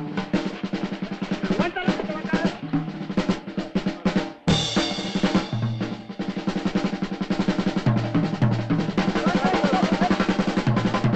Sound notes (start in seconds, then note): 0.3 men chattering